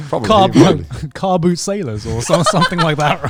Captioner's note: laughing